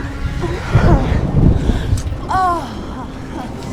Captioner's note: moaning